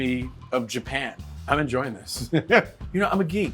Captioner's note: laughs